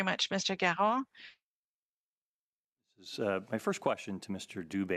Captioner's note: speaking French